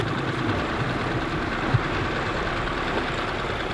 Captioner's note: engine splutters